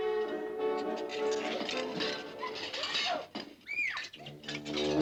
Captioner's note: Rottenmeier sneezing